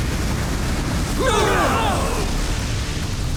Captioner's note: groaning